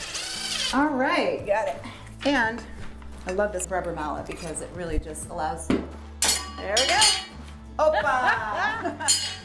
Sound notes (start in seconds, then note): 0.0 drill whirring; 5.4 mallet pounding